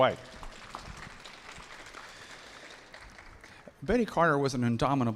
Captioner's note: audience applauding